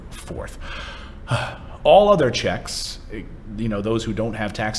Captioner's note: sighs